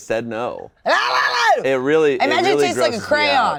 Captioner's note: shouting